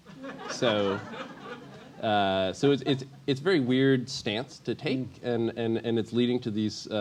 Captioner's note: laugh